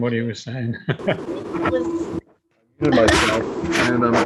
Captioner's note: laughing